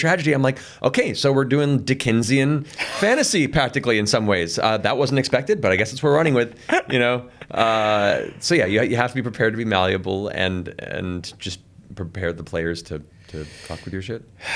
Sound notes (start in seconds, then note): 6.5 chuckles